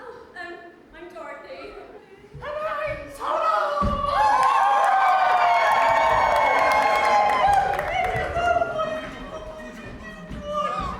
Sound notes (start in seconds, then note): 4.2 audience cheers; 9.7 someone shouts out "kiss"